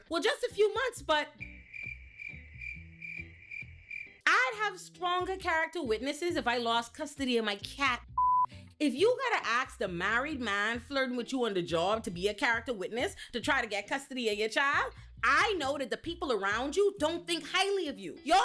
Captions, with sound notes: Well, just a few months, but... (crickets chirping) I'd have stronger character witnesses if I lost custody of my cat (beep) If you gotta ask the married man flirting with you on the job to be a character witness to try to get custody of your child, I know that the people around you don't think highly of you.